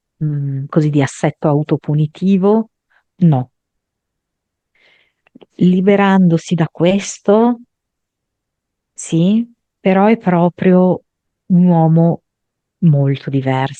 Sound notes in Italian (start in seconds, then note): none